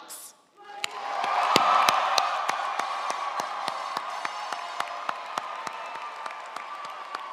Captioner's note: audience cheering; audience applauding